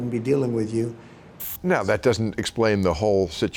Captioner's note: screen hissing